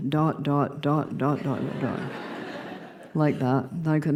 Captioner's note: laughter